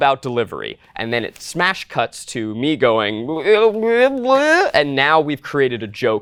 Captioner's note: whining